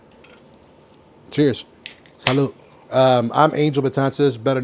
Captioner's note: beer can opens